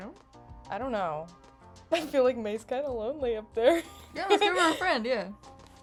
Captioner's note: laughs